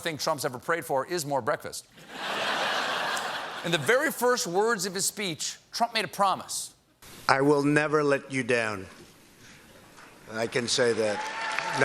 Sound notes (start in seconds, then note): 2.0 laughter